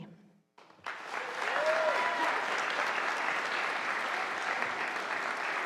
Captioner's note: audience applauding